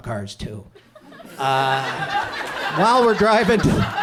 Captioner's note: audience laughs